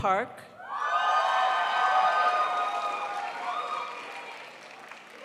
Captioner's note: crowd applauds